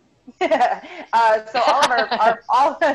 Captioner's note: laughs